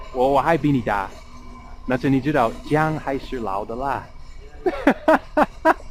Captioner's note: mandarin